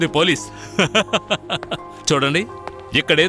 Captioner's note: laughs